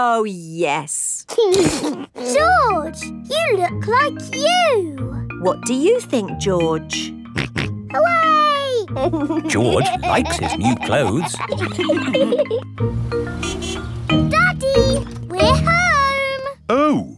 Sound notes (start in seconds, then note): 9.0 snorts and laughs; 13.2 horn honks